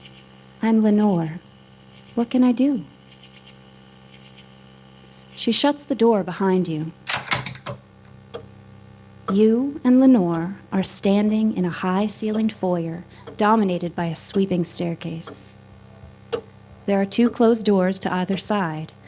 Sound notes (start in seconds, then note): 7.0 lock noise; 7.3 continous ticking